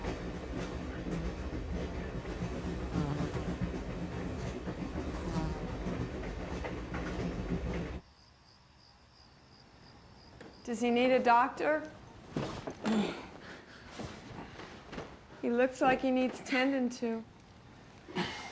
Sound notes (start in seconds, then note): 12.9 heather grunts